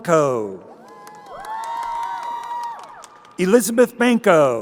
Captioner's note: crowd cheering